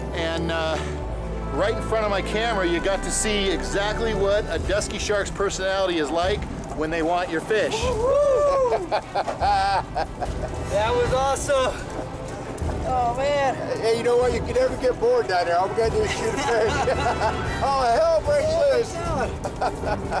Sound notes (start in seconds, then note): 7.6 laughs; 15.6 men conversing